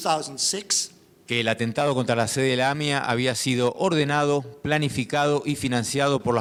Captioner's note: speaking in foreign language